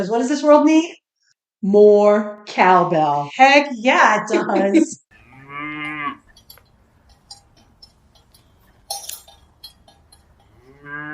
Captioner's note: cows mooing and cowbells clanking